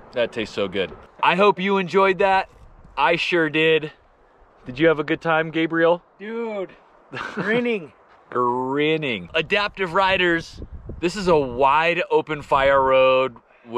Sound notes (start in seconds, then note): 7.1 laughs